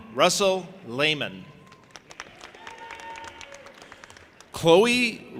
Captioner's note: audience applauding and cheering